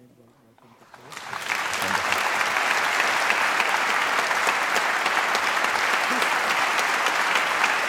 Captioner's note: applause